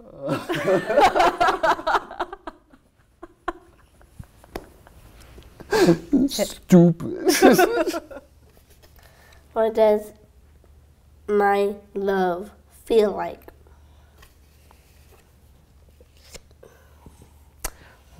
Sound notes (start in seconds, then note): 7.2 laughs